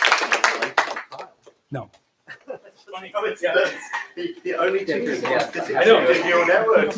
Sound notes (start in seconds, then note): 2.2 laughs